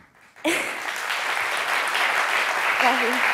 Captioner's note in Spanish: Aplausos